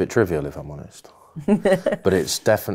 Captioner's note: laughing